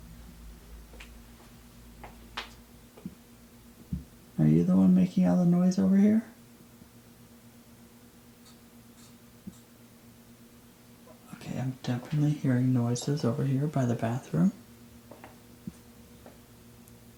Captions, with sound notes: Are you the one making all the noise over here? (tapping sound) Okay, I'm definitely hearing noises over here by the bathroom.